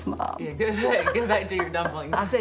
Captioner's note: laughing